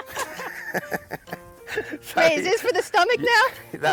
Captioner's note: laughing